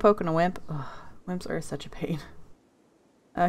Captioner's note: sigh